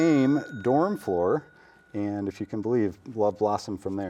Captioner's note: bell dings